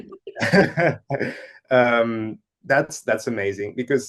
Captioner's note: laughs